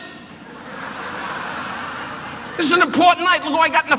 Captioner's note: audience laughing